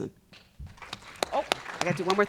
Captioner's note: audience applauding